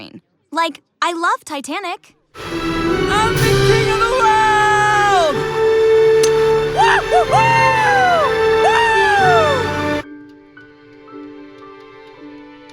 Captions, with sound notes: Like, I loved Titanic. I'm the king of the world! (orchestral music playing) (whooping)